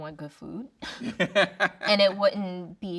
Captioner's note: laughing